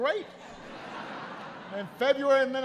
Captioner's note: laughter